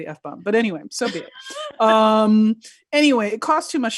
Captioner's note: laughing